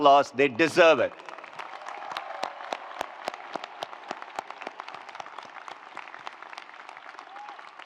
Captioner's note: attendees applauding; attendees cheering